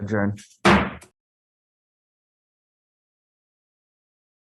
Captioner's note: gavel thuds